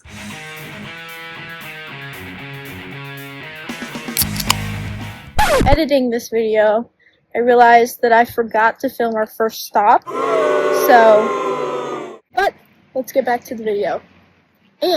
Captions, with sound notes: Editing this video I realized That I forgot to film our first stop [boos] So... But, let's get back to the video